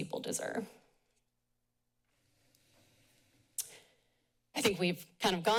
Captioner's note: pause